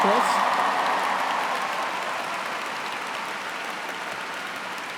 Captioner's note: cheers and applause